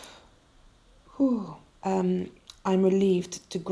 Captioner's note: narrator exhales sharply